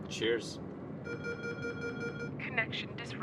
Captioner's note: alert bells